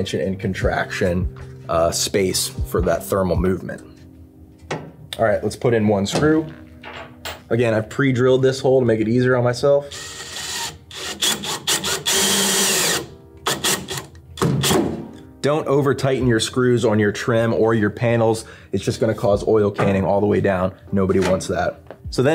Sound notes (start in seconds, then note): 9.9 drill hums; 14.5 wood thuds